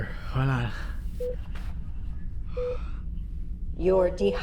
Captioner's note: screen beeps